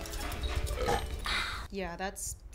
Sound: loud belch

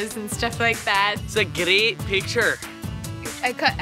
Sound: terrible Scottish accent

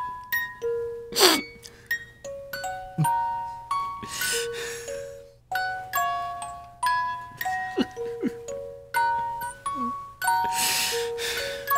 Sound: he sniffs as he plays on the Jack-in-the-box

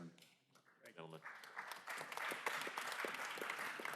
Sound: applause

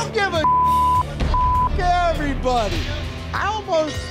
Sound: beep

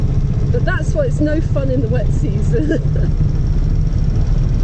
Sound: laughing

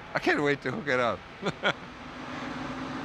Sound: laughs

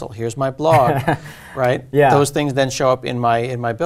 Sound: laugh

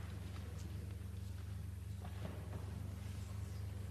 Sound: none

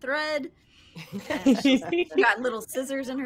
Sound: all laughing

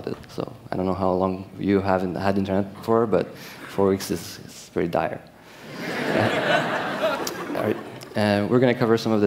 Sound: laughter

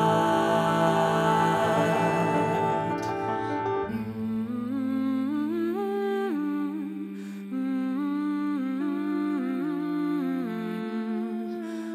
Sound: humming

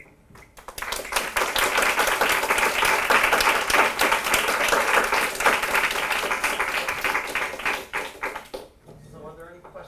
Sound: applause

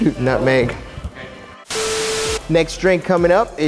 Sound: static

